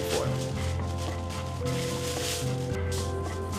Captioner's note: crinkling